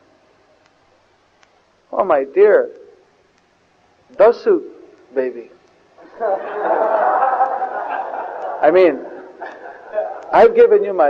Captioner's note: devotees laugh